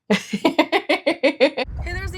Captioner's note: laughing